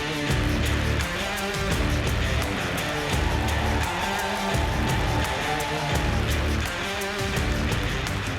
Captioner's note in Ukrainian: оплески